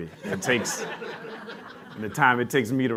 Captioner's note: laughter